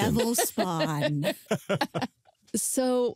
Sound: all laughing

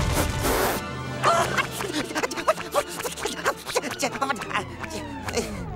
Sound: panting

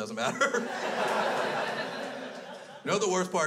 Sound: crowd laughs

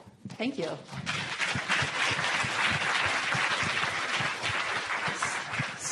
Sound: applause

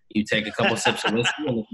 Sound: laughs

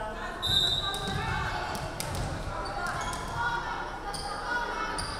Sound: referee whistling

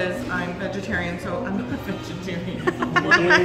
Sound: laughing

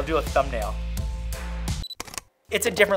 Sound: camera beeps and clicks

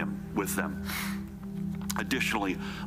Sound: sniffing

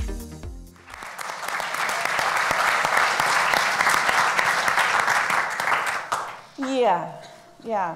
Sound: applauds

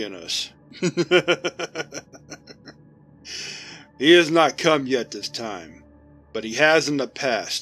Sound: RPC-849-C begins laughing for several seconds

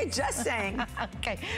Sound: laughter

